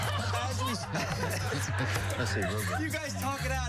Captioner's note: laughter